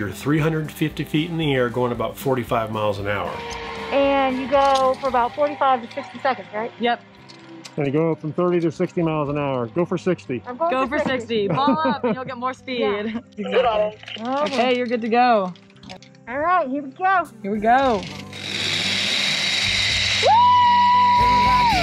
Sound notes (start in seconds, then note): 13.5 crackling voice over radio; 20.0 wire zipping